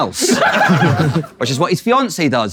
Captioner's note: people in room laughing